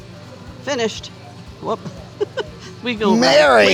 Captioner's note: chuckles